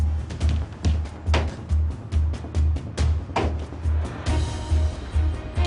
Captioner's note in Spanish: Golpes